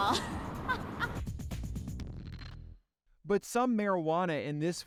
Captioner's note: woman laughing